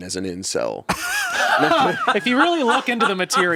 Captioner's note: everyone laughs